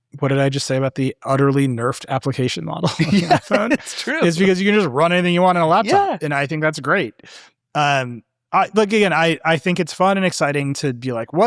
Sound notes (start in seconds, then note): 2.8 laughing